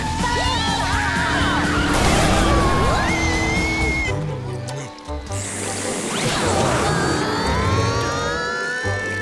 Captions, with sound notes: Yeehaw! [screaming] Whoa!